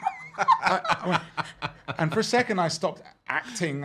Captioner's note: laughing; gasping